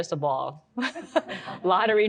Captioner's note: audience laughs